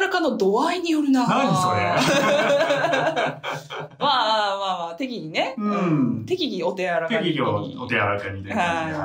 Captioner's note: laughs